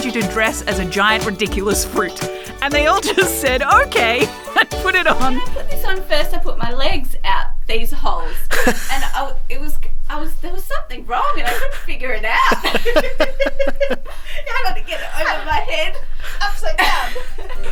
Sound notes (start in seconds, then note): 12.4 laughing